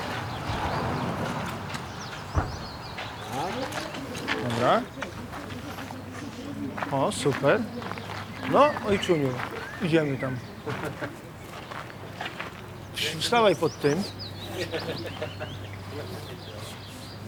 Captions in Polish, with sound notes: Dobra. O, super. No, ojczuniu, idziemy tam. - Stawaj pod tym. - [śmiejąc się] Nie.